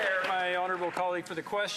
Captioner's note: some Applause